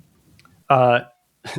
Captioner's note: uh